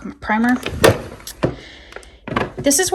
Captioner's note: drawer thudding